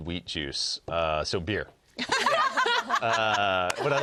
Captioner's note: all laugh